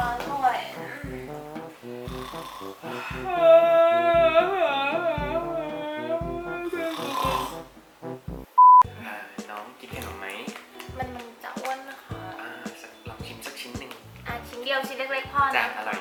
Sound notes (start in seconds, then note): 0.2 snoring; 1.9 yawning & snoring